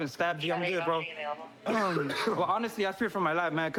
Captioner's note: coughs